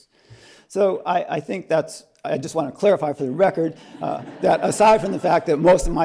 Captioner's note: laughter